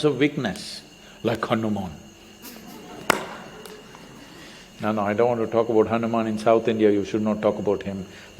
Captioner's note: laughter